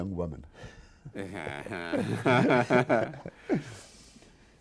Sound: laughing lightly

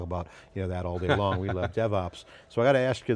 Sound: laughing

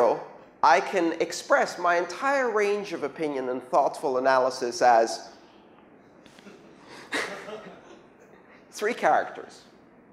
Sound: laughter

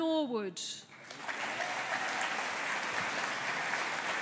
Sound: audience applauding

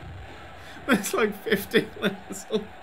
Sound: dissolves into laughter

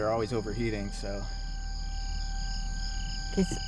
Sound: crickets chirping

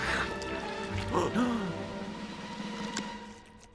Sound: gasps

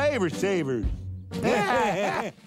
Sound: chuckles

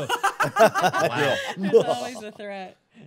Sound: laughing

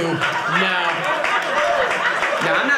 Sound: audience laughing

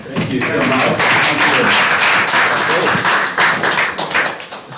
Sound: applause

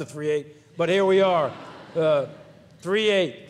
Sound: audience laughs

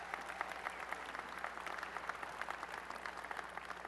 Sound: applause

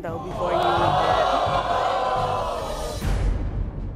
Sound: audience oohing

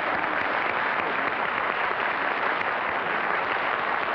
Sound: applause

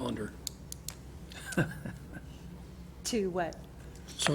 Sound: chuckling

